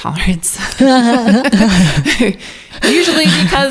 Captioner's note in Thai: ทั้งคู่หัวเราะ